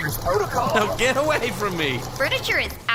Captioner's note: laughing